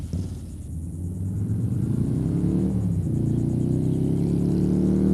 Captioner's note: motorbike roars, 4,500 RPM